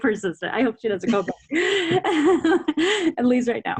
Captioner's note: laughs